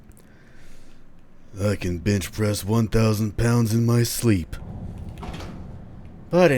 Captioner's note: duke nukem voice